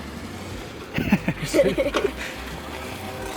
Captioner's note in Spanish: laughing